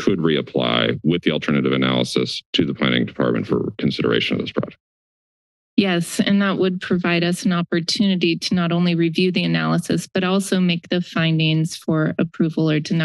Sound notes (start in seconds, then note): 4.9 silence